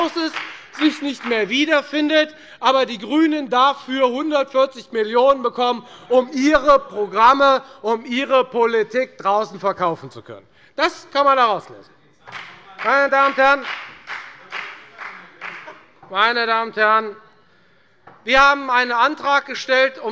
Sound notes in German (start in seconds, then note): 12.2 Beifall bei der FDP